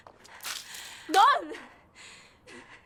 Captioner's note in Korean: 맥주 끼얹는 소리